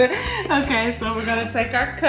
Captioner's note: laughing